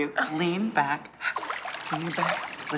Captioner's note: splashing